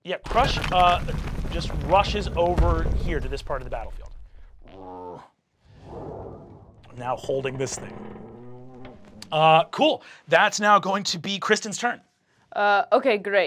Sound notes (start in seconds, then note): 0.0 die clacks; 5.7 growls